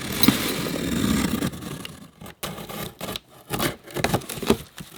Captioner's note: cutting cardboard box